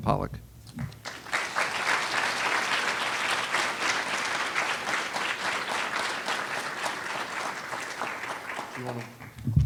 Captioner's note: applause